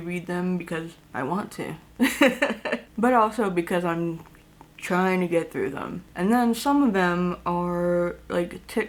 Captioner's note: laughs